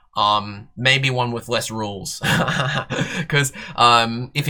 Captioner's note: laughter